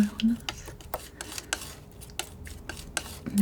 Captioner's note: scratching